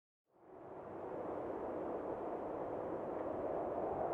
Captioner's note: wind rushing